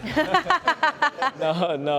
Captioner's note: laughter